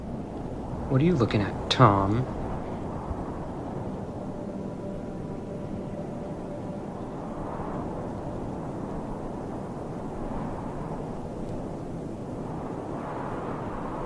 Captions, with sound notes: What are you looking at, Tom? (wind whooshing)